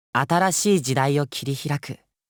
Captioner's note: none